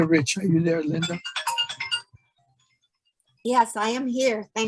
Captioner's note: phone ringing